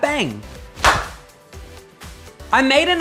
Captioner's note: bang